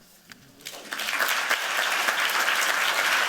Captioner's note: applause